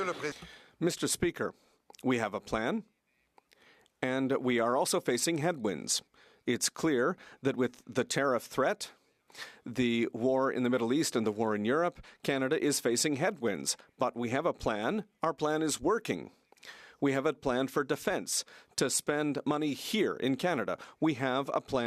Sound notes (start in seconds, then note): 8.0 speaking French